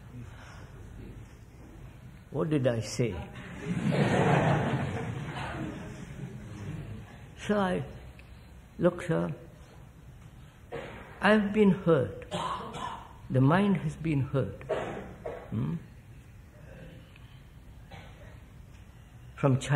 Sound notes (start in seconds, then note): 3.4 laughter